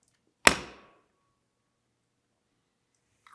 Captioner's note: lid thuds